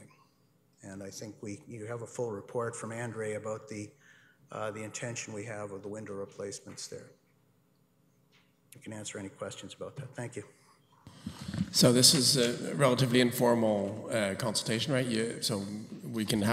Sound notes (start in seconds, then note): none